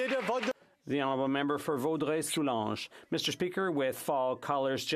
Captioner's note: some Applause